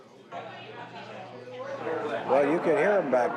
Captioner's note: indistinct chatter